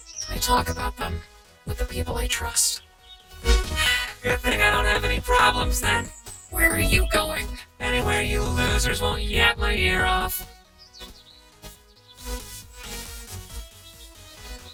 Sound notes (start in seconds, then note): 3.6 sighs